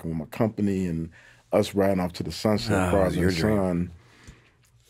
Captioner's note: speaking faintly